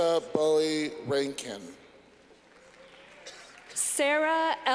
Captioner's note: clapping